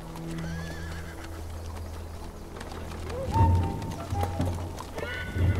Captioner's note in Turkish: Kişneme ve kağnı sesleri